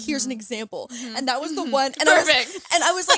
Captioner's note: laughs